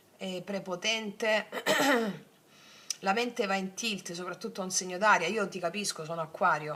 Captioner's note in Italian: schiarire la voce